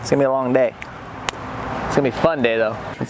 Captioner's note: clapping